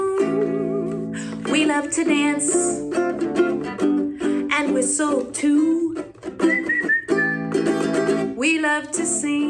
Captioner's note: whistling